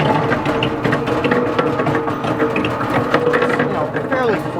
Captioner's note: baby root washer turning